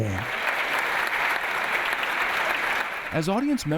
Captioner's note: audience applauding